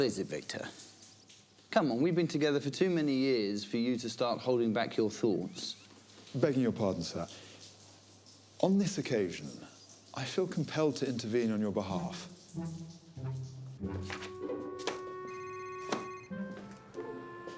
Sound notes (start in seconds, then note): 14.1 phone rings